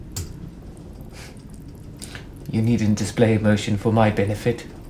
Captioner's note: scoffs